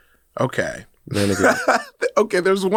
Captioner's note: laughs